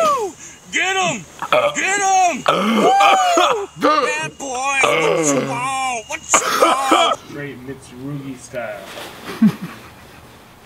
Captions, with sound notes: - Woo, get 'em, get 'em! (heavy breathing) - Woo, bad boys, what you want, what you want? - It's movie-style.